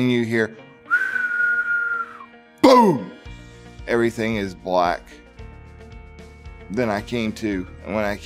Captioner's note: whistling